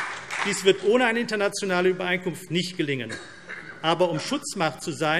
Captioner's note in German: Beifall CDU und BÜNDNIS 90/DIE GRÜNEN